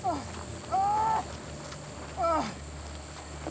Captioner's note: yelling